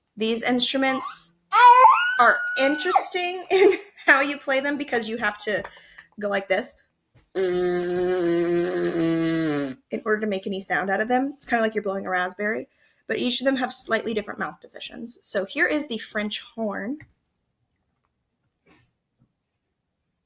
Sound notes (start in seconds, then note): 7.3 blows raspberry